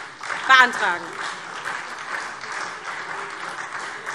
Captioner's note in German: Beifall SPD